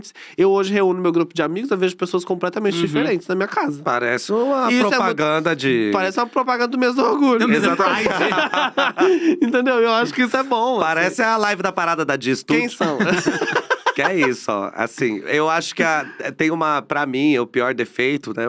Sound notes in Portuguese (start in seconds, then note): 7.4 risos; 12.8 risos